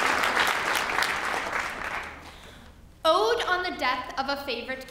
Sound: applause

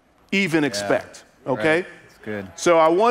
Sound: congregants agreeing

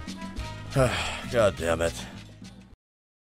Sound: weary sigh

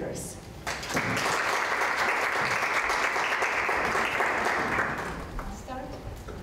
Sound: applause

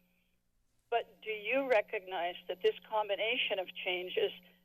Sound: none

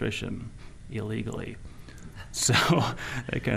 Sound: chuckling

